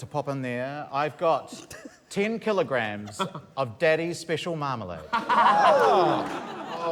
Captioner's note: laughter